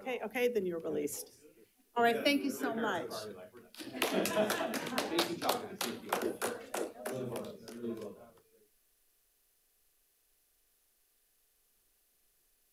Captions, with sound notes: Okay, okay, then you're released. All right, thank you so much. (attendees applauding) (people chattering)